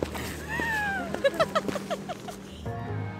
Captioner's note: giggling